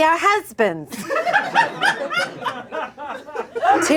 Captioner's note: audience laughing